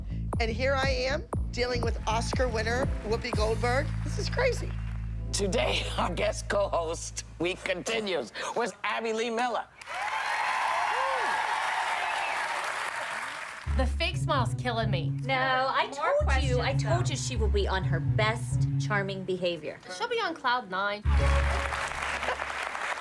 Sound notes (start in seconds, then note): 9.8 applause